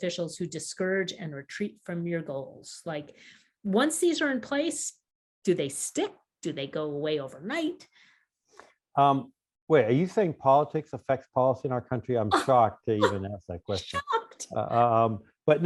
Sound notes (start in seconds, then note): 13.0 chuckles